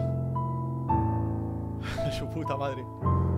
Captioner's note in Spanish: Suspiro